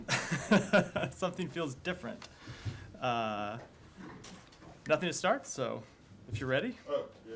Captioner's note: laughter